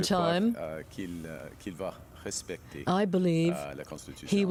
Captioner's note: speaking French